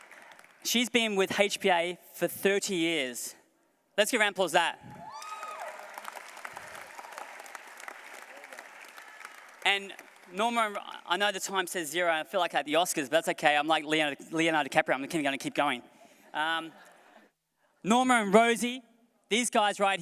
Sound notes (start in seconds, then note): 5.0 applause